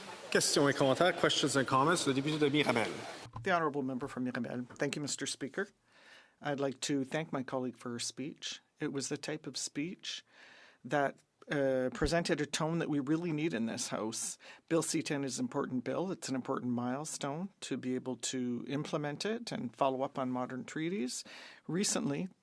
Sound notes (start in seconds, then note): 7.4 speaking French